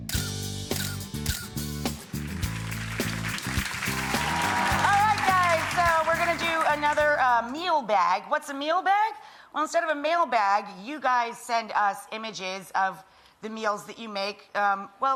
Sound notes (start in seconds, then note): 0.1 upbeat music; 1.9 audience applauds